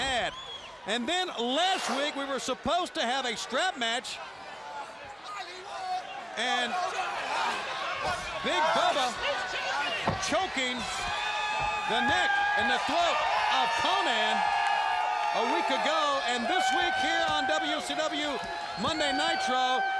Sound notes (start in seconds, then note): 4.8 crowd chatter